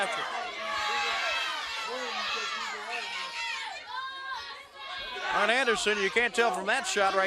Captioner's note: crowd chatter